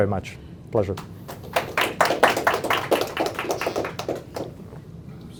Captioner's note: applause